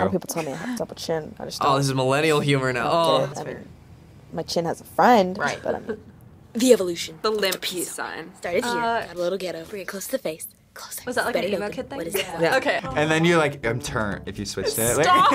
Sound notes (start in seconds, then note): 10.5 whispers; 14.6 laughs